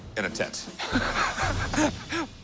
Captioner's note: both laugh